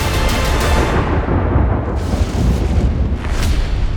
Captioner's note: music intensifies, fades out; thunder crashing